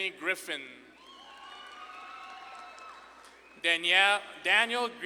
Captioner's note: audience claps and cheers